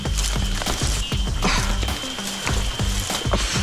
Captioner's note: leaves rustling